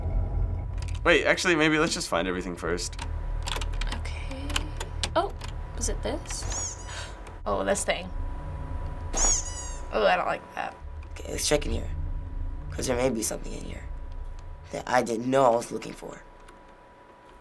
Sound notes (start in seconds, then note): 6.4 doll squeaks; 6.8 gasps; 9.2 doll squeaks